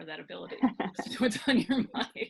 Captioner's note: laughing